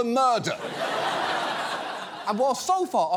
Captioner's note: studio audience laughs